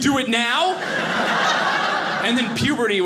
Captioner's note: audience laughing